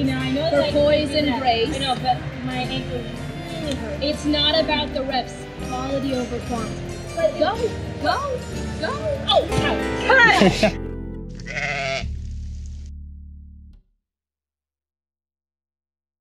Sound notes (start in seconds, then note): 11.3 sheep BAA